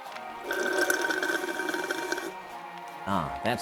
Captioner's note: sucking sounds